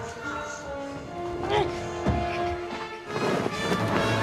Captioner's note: grunts